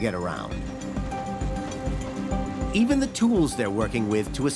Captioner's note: bell chimes